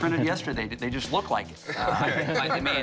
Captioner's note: laughs